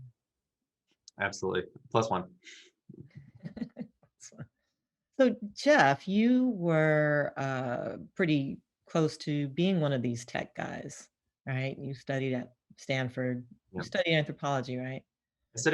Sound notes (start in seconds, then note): 3.4 chuckles